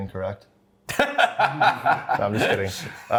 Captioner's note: laughs